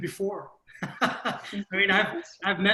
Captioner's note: laughs